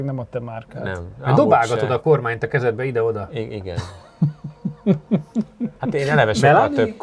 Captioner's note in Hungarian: nevetés